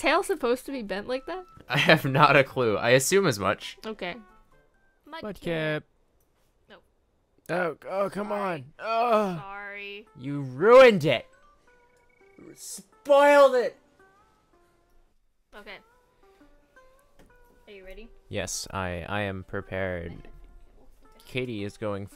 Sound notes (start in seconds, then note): 5.3 old man voice; 8.8 old man groan